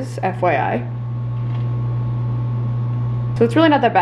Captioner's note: soft whirring